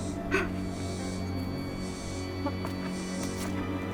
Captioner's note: Mara cries